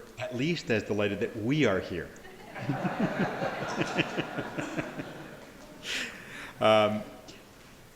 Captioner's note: laughter